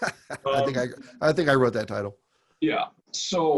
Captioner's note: laughs